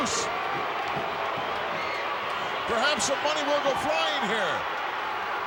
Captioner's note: applause